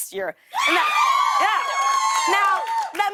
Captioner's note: cheers and applause